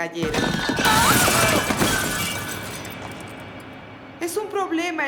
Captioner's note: loud crash